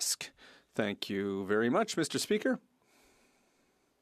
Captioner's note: speaking French